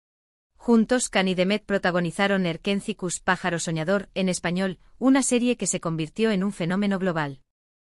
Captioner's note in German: spanisch